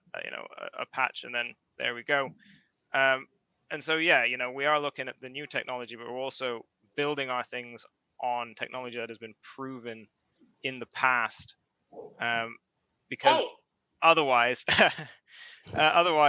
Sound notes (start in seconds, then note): 13.2 laughs; 13.2 dog barks